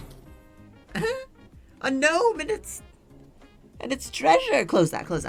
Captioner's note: giggles